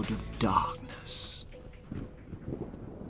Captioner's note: thunder rolls